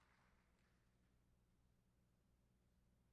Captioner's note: applause